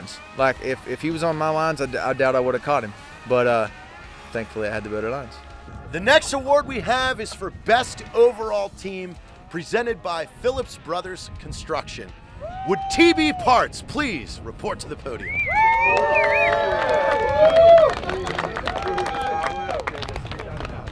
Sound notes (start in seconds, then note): 15.4 cheering